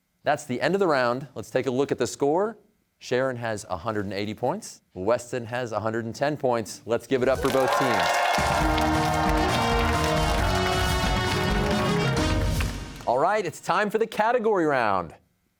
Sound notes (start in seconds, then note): 7.2 cheers and applause